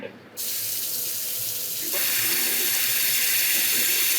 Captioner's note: pan sizzling